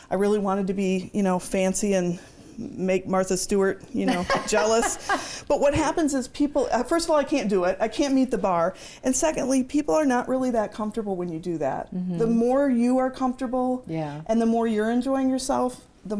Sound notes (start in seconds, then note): 4.0 laughs